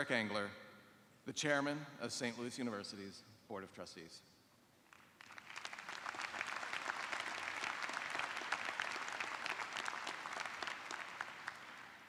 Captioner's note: applause